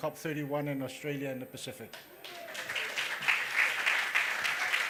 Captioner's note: applause